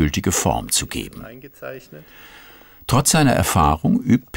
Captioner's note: quietly